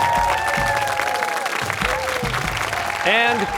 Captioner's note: cheers and applause